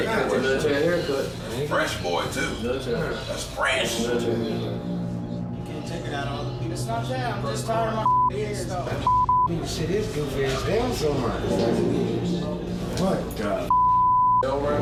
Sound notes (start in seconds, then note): 5.7 inmates chattering